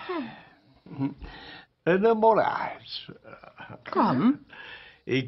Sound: sighs

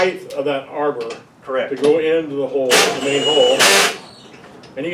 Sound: drill noises

